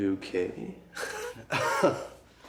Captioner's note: laughs